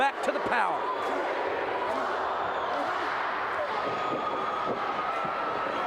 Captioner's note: audience roaring